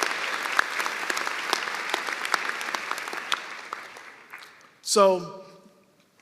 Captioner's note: applause